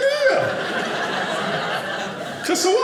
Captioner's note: audience laughing